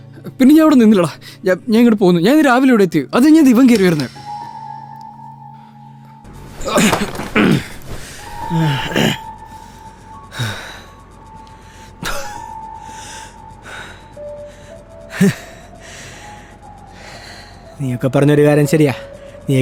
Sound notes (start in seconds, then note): 6.6 grunts; 15.1 laughs